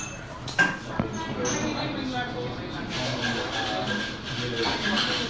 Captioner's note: patrons chatter